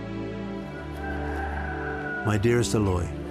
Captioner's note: rooster crows